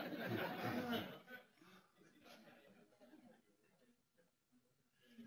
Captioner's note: pause; laughter